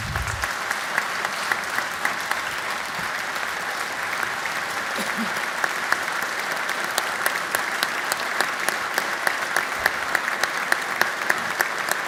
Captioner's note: applause